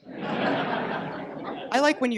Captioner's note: audience laughs